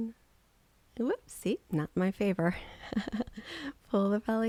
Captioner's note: giggling